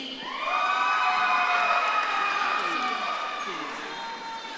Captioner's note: audience claps and cheers